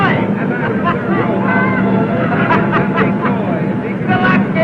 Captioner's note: happy laughing